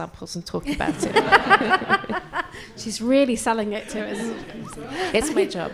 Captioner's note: laughs